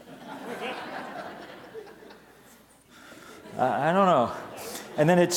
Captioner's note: audience laughs